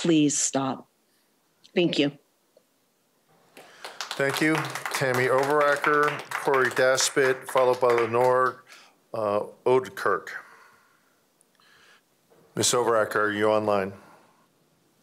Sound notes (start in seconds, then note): 5.1 applause